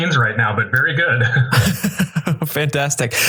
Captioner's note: both laughing